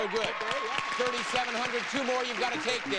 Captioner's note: audience applauding